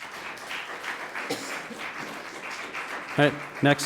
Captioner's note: audience applauding